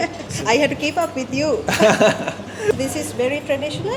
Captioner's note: laugh